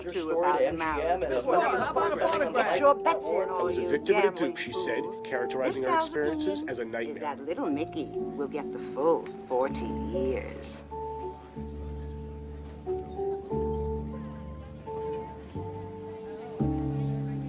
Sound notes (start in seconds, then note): 2.0 reporters chattering; 12.1 gentle music; 12.1 patrons chatter